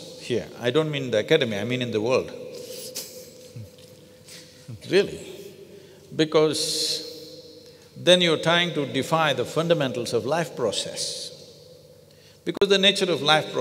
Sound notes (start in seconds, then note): 2.8 laughs